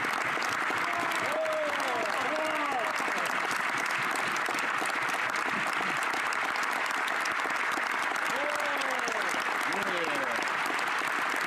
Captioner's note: some Applause